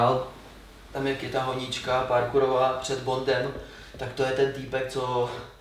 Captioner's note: heavy breathing